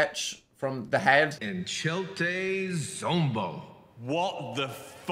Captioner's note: Dil speaking in foreign language